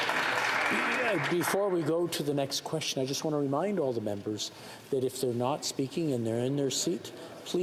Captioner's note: some Applause